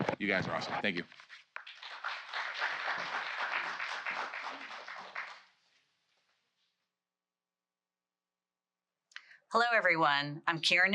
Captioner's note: applause